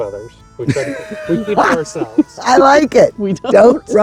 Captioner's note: laughs